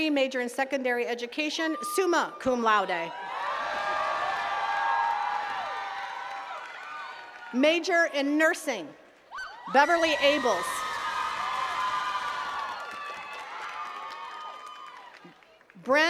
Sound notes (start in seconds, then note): 3.0 attendees cheering and clapping; 8.6 attendees cheering; 11.4 attendees cheering and clapping